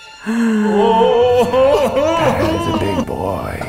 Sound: both gasp

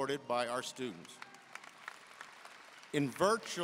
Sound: audience cheering and applauding

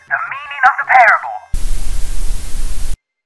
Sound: static noise

